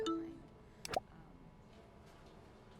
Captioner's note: email beep; email popping up